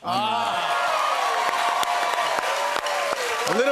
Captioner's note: cheers and applause